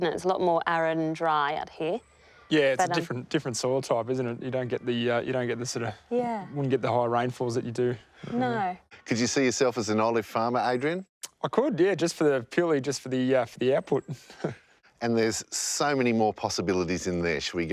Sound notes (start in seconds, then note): 14.0 laughs